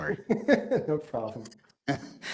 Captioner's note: laugh